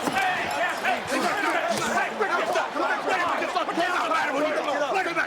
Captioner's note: group clamoring